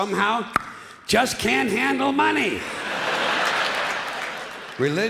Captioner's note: clicks tongue